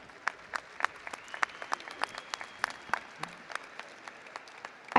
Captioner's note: applause